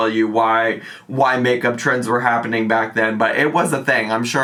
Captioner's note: none